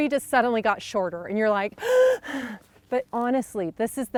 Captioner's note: gasping